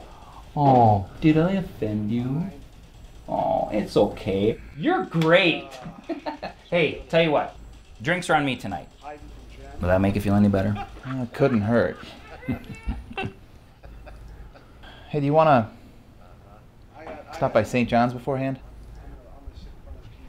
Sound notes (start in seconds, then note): 5.5 laugh; 11.8 chuckle